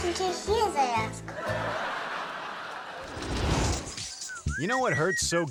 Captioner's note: audience laughing